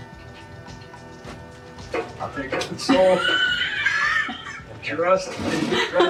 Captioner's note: mumbles and laughs